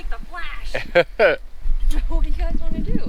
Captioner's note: laughing